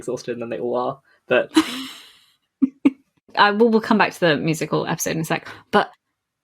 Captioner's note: laughs